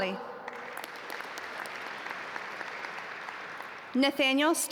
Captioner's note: audience applaud